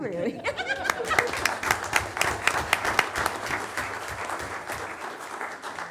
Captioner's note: laughing; assemblage applauding